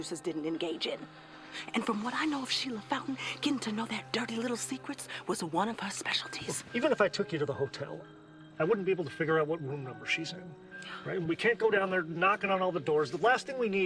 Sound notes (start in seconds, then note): 10.9 Eleanor sighs